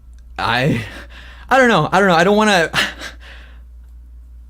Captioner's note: laughs